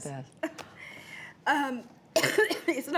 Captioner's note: coughing